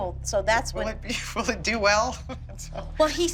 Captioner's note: chuckles